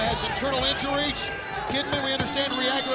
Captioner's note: bell rings